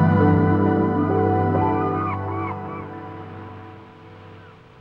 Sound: birds cawing

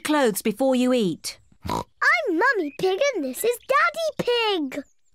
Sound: oinks

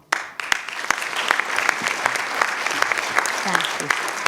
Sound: clapping

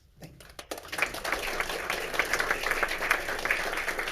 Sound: all clapping

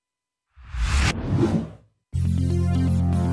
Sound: air whooshing; electric buzzy music

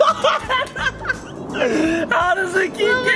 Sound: laughing

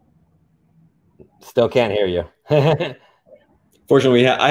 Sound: chuckles

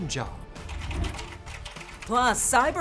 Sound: keyboard clacking

